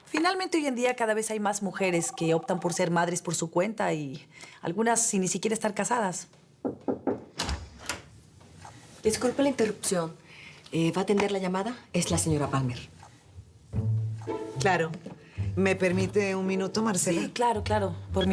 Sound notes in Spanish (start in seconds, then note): 6.6 Toques en la puerta; 8.9 Ruido al abrir